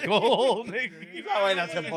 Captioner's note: laughing